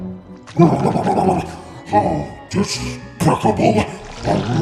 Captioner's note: grumbles